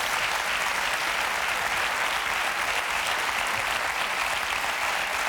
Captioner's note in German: Applaus